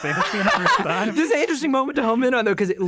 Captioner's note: group laughing